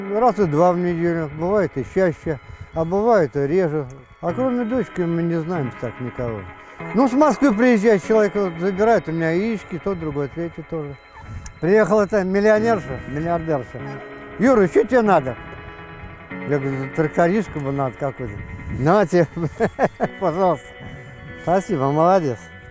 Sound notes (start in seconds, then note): 19.4 laughs